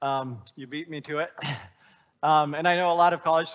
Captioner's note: chuckling